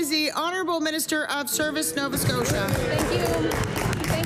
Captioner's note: applause